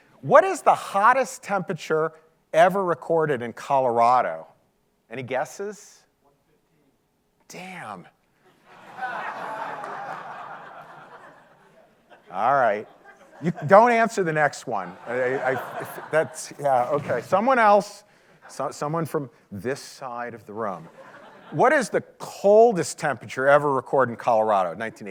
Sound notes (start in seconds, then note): 8.4 audience laughing